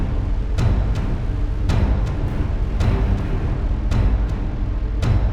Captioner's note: thunder storm